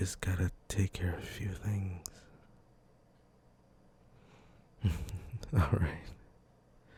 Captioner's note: chuckle